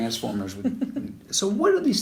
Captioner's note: laughs